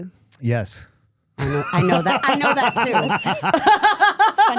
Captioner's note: laughing